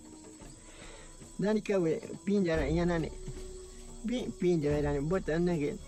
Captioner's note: speaking in foreign language